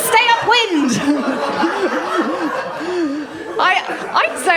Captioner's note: laughter